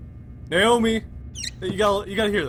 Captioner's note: squeak